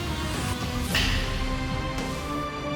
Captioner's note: arrow strikes